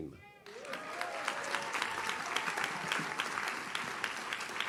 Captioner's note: audience cheers